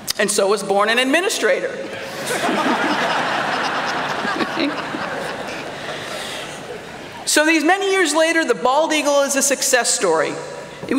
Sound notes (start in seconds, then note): 2.0 laughter